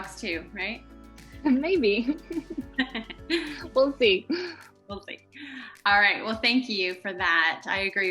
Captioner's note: laughs